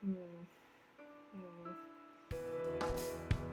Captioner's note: mumble: mmm. I dunno